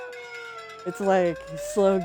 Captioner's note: sirens